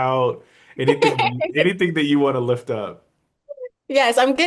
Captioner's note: laughs